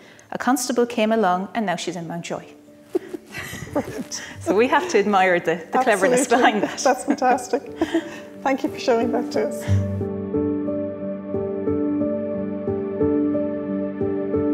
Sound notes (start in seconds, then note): 2.9 chuckles; 10.3 soft solemn music